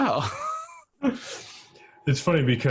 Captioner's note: laughs